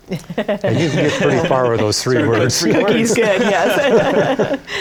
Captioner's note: laughter